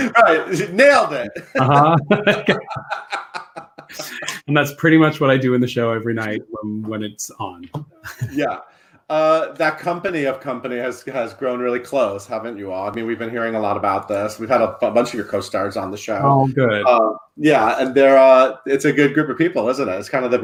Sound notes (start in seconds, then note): 3.0 laughs; 7.9 laughs